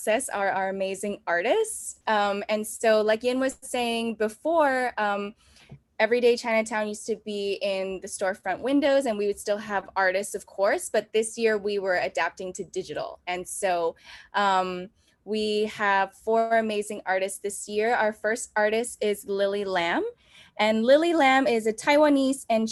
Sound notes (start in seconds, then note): none